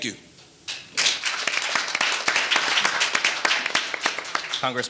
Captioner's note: audience applauding